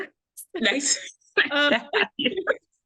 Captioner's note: laughter